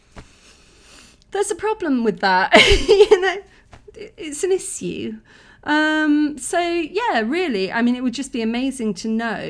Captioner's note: laughing